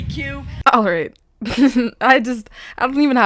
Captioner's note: chuckles